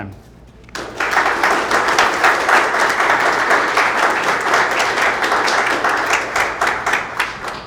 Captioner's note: applause